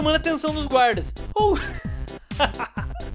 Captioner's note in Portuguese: Risos